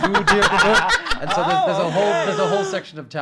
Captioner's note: laughing